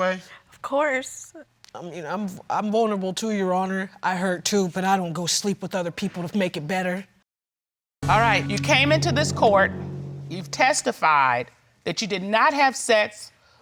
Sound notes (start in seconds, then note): none